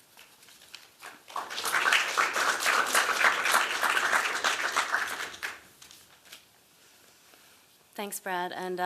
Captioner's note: applause